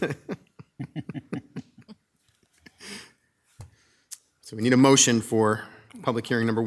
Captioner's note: both laughing